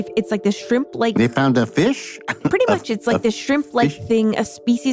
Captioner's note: laughs